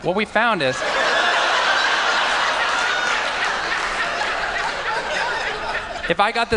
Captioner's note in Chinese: 笑聲